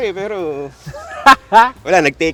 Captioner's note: laughs